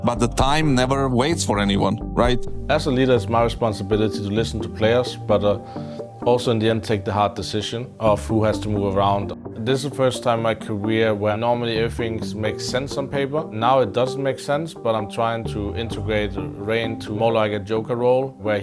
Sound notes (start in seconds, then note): none